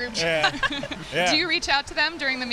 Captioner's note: laughter